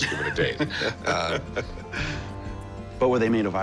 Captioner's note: laughs